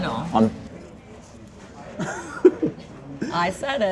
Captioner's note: laughs